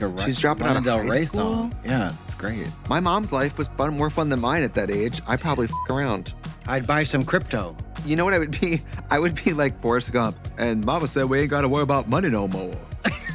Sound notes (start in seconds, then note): 5.6 beep